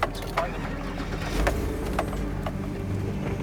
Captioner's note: engine starting; suspenseful music continues